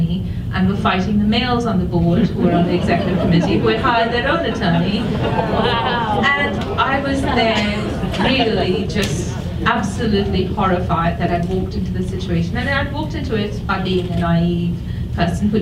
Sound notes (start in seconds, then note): 2.5 audience applauds; 5.3 audience murmuring